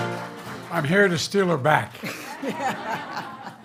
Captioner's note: laughter